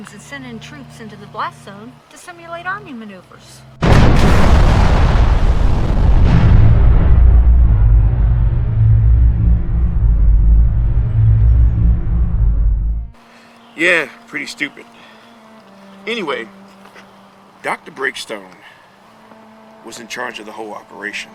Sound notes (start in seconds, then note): 3.9 explosion roars